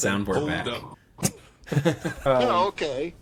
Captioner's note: laughing